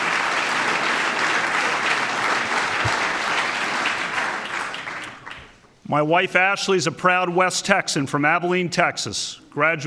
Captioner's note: applause